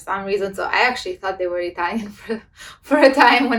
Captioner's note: laughs